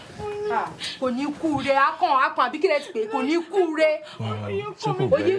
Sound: all speaking in foreign language; speaking foreign language

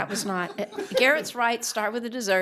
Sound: laughing

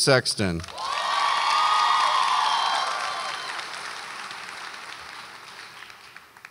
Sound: audience applauds and cheers

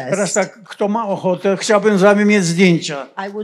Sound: foreign language

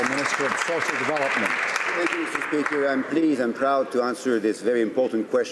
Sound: some Applause

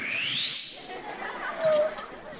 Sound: laughing

